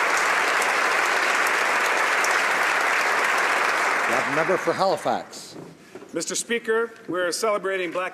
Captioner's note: applause